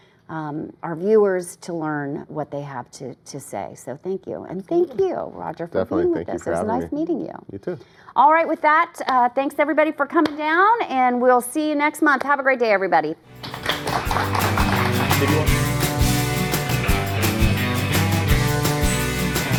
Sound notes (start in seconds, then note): 13.3 applause